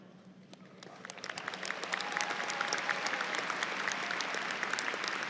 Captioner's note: audience applauds